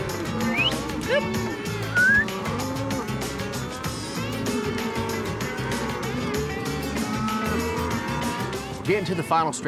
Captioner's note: cowboys calling, whistling; cows moo